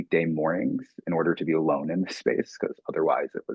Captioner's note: chuckling